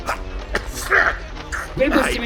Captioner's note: sneezing